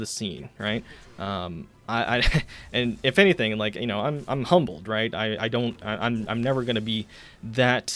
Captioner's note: stammers